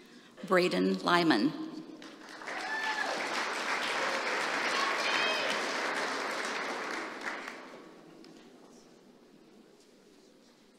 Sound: applause

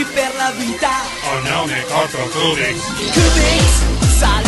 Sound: Cubix speaks in short, fragmented sentences

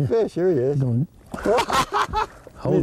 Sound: laughter

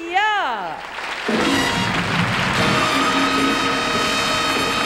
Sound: audience applauding

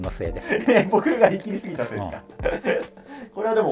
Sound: laughing

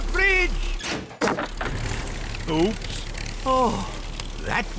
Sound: crunching

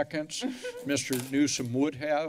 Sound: laughter

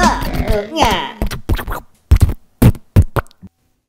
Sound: tractor sputtering

